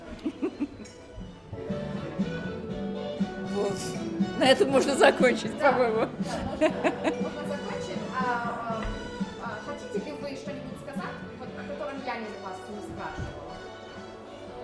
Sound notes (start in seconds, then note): 0.0 laughs; 7.3 laughs